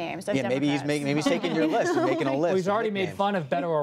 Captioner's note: laughter